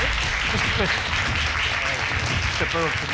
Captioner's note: audience applauding